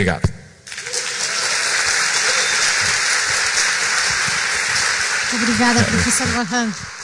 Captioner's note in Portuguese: applause